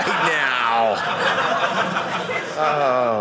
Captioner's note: audience laughing